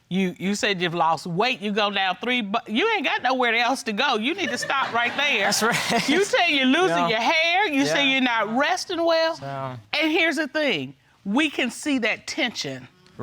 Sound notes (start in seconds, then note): 4.4 audience laughing; 5.9 laughing